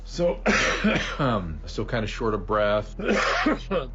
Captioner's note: Drew coughs